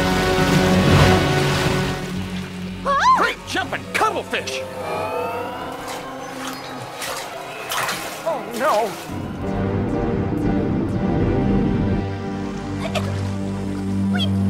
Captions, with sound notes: - OH! - Great jumping cuttlefish! (alarm blaring) oh no! (ominous music)